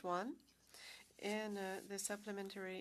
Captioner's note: speaking French